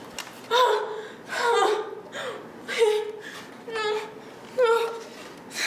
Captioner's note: frightened moaning